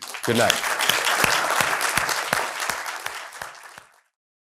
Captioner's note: applause